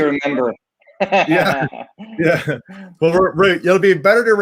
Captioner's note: laughs